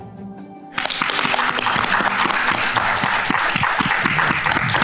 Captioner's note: audience clapping